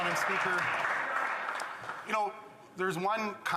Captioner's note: some Applause